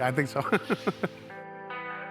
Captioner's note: chuckles; gentle music